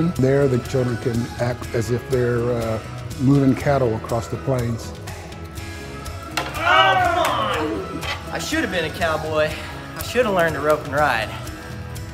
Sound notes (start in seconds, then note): 6.3 yells